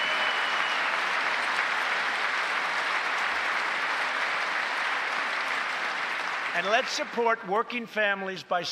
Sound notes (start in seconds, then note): 4.9 applause